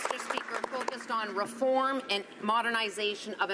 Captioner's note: some Applause